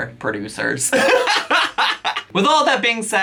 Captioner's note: laughing